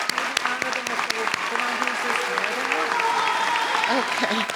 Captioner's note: speech drowned out by applause